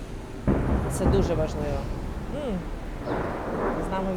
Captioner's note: explosion